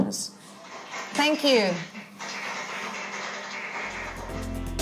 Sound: applause

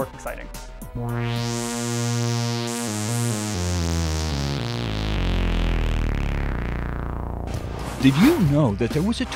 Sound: sound Effects

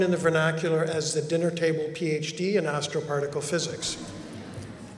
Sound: laughter

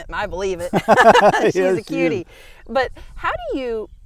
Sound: laughing

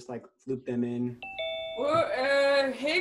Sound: doorbell rings

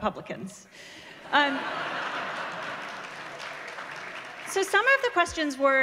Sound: laughter

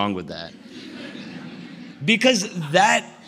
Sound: laughter

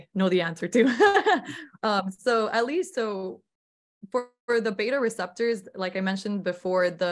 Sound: laughter

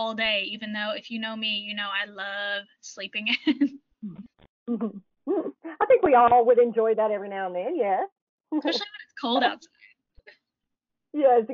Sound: chuckles

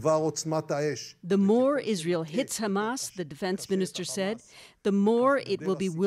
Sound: speaking alternate language

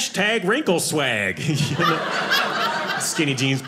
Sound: audience laughing

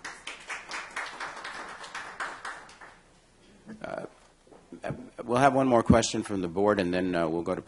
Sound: applause

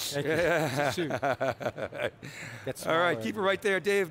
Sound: men laughing

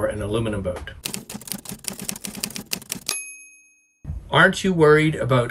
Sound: typewriter keys clacking

